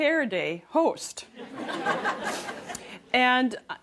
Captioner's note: laughter